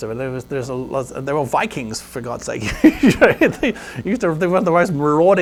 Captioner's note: laughs